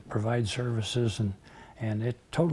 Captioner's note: none